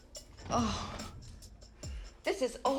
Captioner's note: sighing